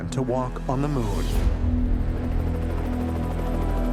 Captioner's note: helicopter blades whirring